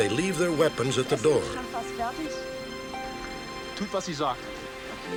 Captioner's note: speaking german